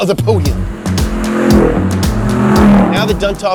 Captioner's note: engines revving